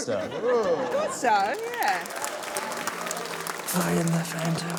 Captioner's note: cheering, applause